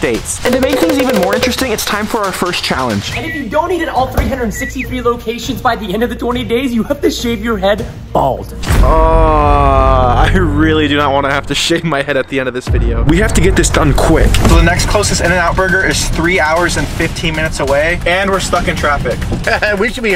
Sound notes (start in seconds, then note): 8.8 groans